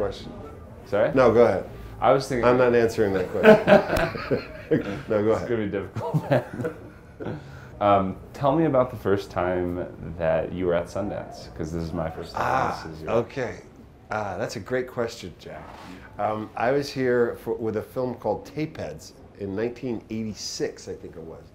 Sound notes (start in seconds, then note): 3.1 laughs